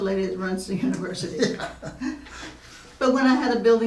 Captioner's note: laughing